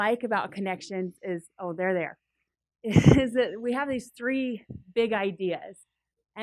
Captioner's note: laugh